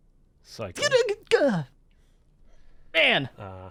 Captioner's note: murmurs